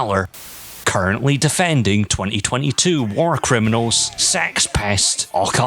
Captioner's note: white noise